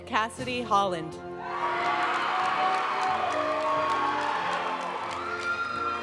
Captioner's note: audience cheering and applauding; graduation music